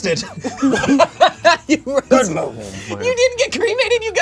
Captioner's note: group laughs